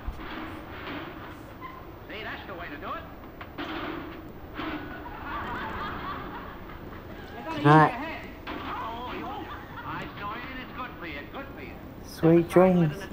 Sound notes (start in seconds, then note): 0.0 furniture clattering; 3.3 furniture clattering; 4.7 laughing from TV